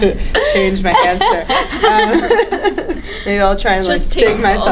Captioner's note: panelists laughing